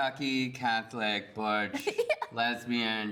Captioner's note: laughs